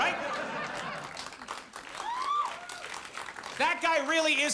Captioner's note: audience laughs and applauds